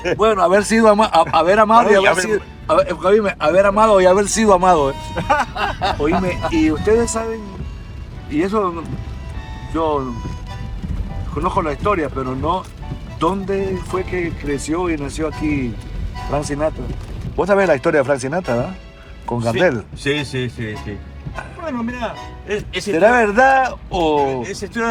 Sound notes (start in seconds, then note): 5.1 laughing